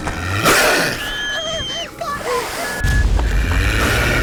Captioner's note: snarling; screams; growling, snarling